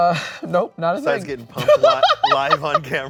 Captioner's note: laughing